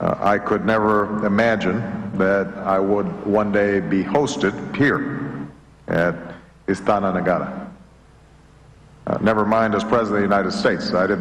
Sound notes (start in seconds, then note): 6.3 non-english